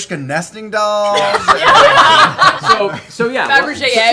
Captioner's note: laughter